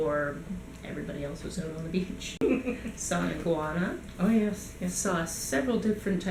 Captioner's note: laughs